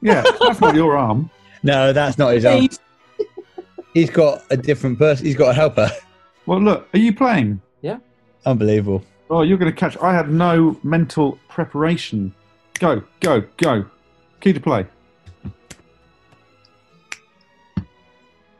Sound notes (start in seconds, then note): 0.0 laughing; 12.7 clicks fingers